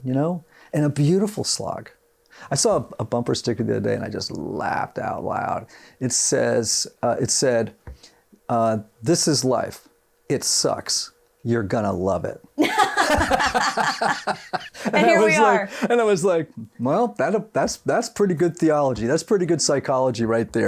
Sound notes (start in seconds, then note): 12.6 both laughing